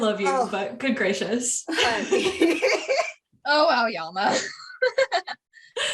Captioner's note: continued laughter